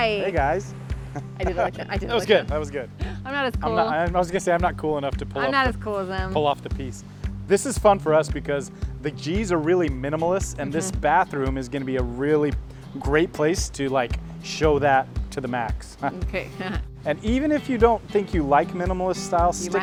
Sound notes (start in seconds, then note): 16.5 laughs